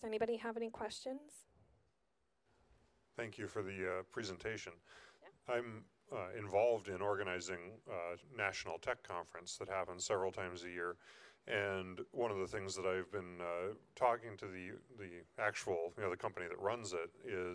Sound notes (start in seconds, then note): 3.6 voiceover